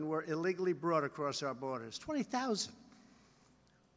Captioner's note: none